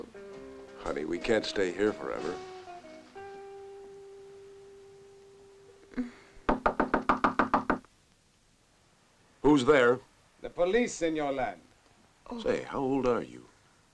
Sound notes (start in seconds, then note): 5.0 moans